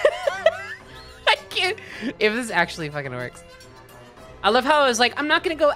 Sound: laughing

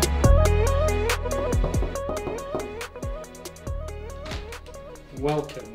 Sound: light knocking

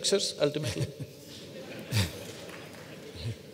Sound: laughter

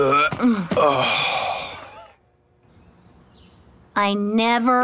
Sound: retching, groaning

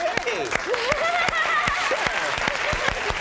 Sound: audience applauding; laughing

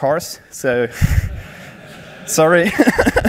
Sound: laughing

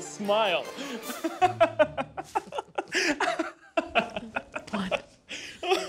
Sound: laughing

